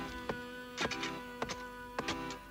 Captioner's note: shovel digging